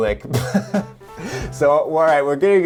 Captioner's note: chuckles